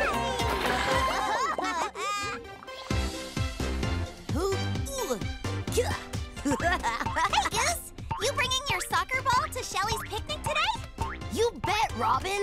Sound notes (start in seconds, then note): 0.4 laughing; 2.4 upbeat music; 4.2 grunting; 6.4 laughing